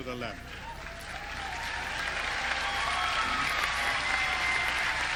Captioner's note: audience cheering